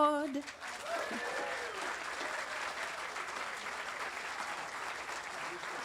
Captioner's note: audience applauding and cheering